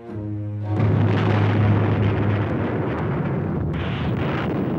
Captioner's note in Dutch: kanonnen vuren